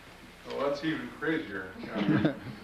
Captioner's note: laughter